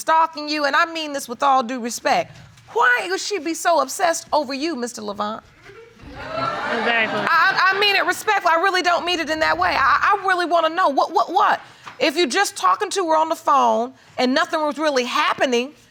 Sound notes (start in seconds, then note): 5.7 audience laughing